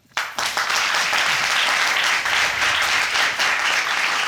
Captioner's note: applauding